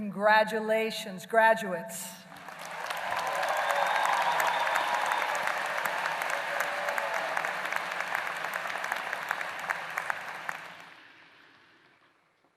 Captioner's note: applause